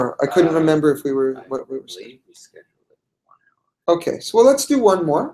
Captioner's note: man speaks off mic